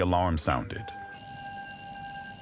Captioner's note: alarm ringing